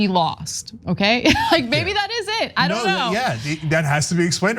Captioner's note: laugh